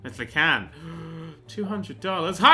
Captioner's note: gasp